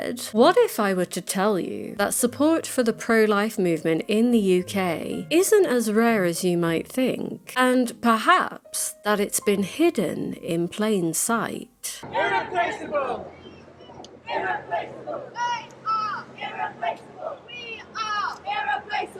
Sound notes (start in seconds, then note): 11.5 crowd chanting in protest